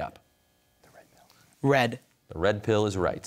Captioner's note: whispers